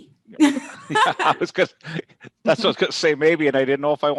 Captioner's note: laughs